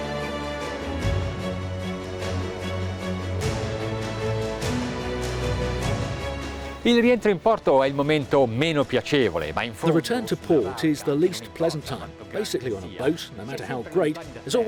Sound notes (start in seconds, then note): 7.1 speaking foreign language